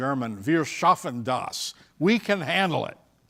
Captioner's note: speaking German